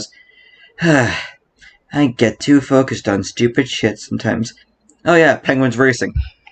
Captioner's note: sigh